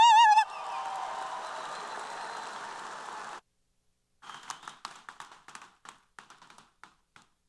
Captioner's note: applause & Cheers